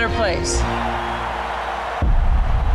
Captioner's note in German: Jubel, Applaus